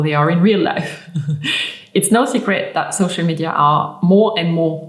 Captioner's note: chuckling